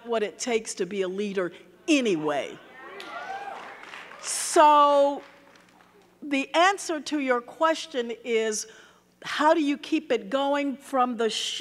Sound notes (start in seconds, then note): 2.7 audience cheering; 2.9 audience clapping